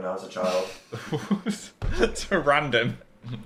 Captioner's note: both laugh